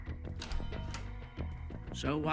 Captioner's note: door closes